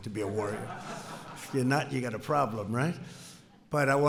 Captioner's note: laughter